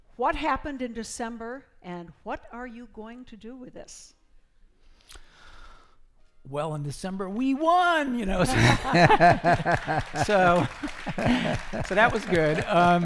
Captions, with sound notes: What happened in December and what are you going to do with this? - Well in December we won. (laughing) (applause) So that was good.